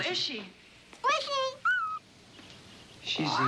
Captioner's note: whistles